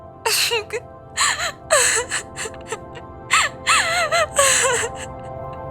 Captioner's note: crying